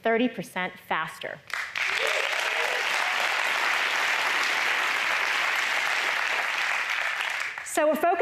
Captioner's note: applause